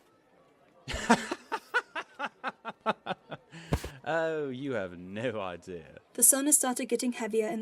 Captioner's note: he laughs, big and barking